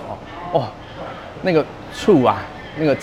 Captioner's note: appreciative "oh"